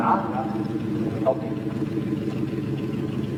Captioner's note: truck motor sounds